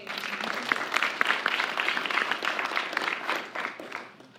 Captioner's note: applause